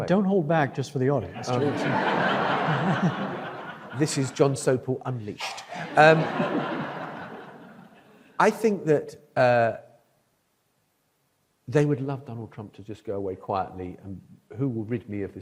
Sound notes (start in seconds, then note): 1.3 audience laughs; 5.6 audience laughs